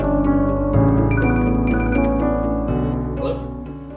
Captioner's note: phone rings